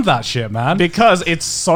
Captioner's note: laughing